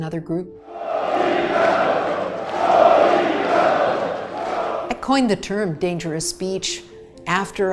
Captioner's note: sound of crowd chanting